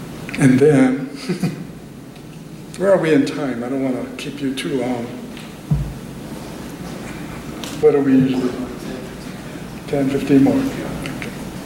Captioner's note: laughter